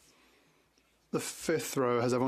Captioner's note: speaking French